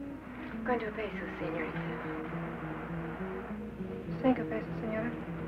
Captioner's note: speaking in foreign language